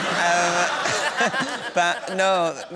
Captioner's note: laughter